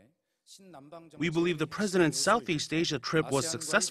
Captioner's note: Korean